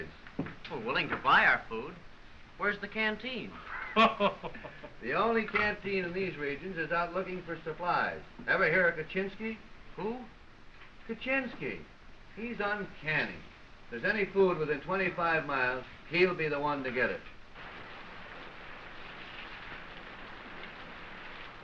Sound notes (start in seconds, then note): 3.6 laughing